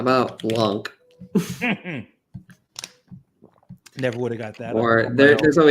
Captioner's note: laughs